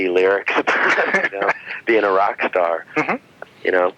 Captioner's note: laughing